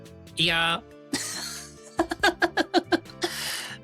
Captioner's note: laughs